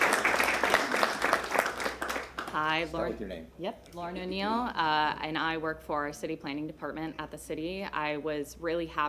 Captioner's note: applause